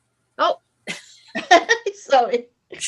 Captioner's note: laughs